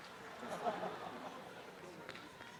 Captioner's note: applause; laughter